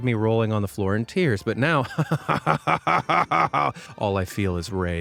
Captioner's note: laughs maniacally